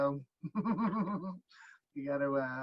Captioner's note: laughing